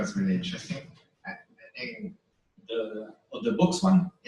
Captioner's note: pause